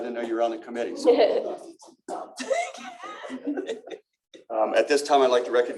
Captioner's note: laughter